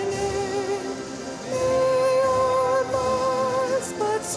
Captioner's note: none